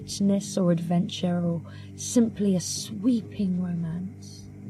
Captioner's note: none